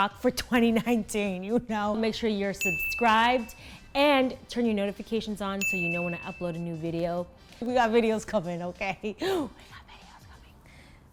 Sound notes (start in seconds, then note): 2.6 bell rings; 5.6 bell rings; 9.7 chuckles